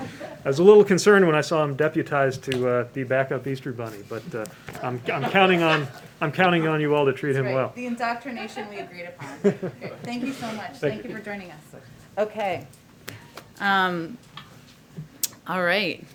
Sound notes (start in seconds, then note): 5.0 laughter